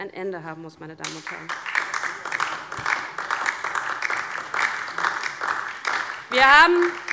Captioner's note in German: Beifall DIE LINKE